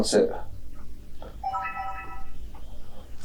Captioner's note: camera chimes on